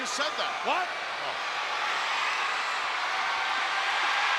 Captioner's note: crowd cheering